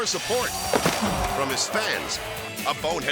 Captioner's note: body smacks